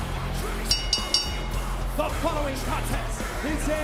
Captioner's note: bell rings